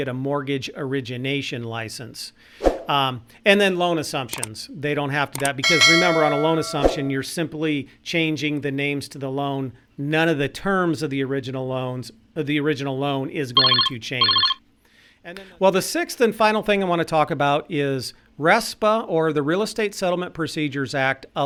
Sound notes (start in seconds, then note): 2.8 whoosh; 5.3 clicking; 5.4 bell rings; 14.1 phone trills